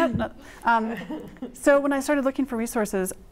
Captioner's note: laughter